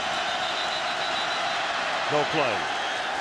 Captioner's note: whistles